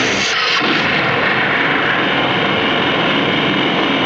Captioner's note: explosão ruge